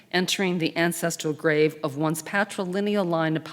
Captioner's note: none